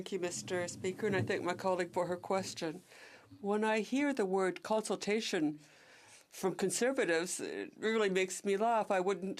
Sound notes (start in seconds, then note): 6.1 speaking French